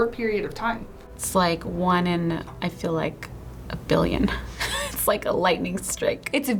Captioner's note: laughs